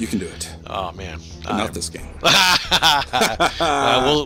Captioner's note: laugh